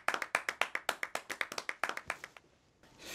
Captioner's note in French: applaudissements